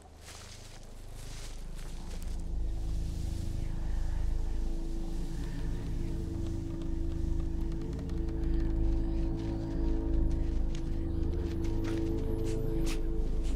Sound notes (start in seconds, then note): 0.2 foreboding music; 3.2 leaves blowing; 9.6 footsteps scampering